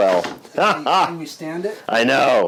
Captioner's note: laughs